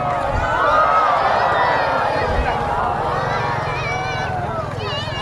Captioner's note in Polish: Aplauz